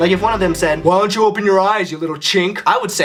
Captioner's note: bully voice